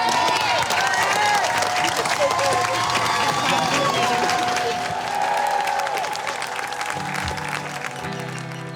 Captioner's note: audience cheering and applauding